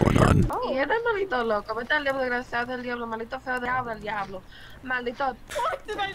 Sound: rambling in a foreign language

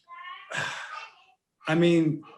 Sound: sighs

